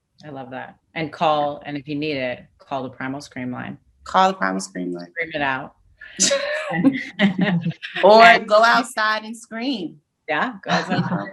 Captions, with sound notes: - I love that and call. And if you need it, call the primal scream line. - Call the primal scream line. - Scream it out. (laughs) - Go outside and scream. - Yeah.